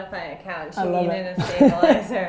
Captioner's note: laughs